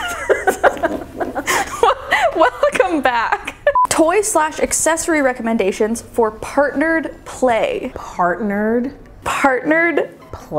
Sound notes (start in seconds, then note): 0.0 laughing; 3.7 beeping sound